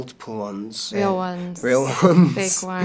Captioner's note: laughs